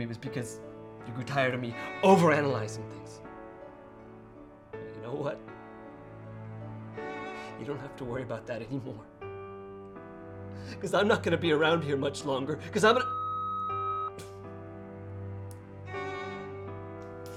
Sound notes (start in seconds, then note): 13.0 voicemail beeps